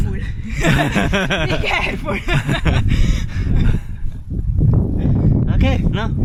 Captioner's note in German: gelächter